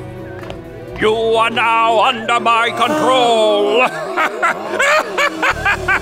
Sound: laughing

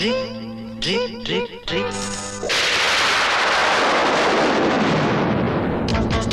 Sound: thunder Rumbling

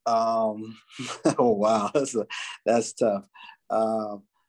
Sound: laughs

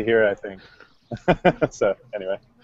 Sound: laughs

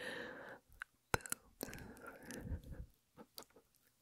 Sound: squeeze

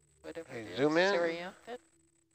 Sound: male Voice

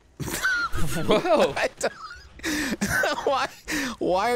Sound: laughing

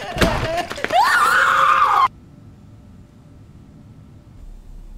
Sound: sobbing; screaming

